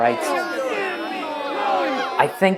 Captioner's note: people chattering